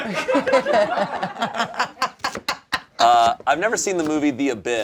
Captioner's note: all laughing